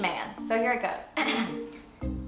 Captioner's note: ahem